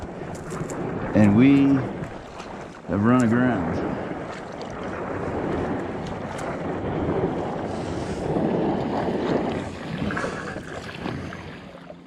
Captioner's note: wind blowing